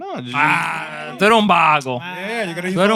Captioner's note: speaking Spanish